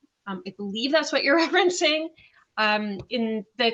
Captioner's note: laughs